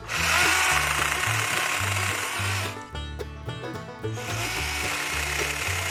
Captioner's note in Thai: ปรบมือ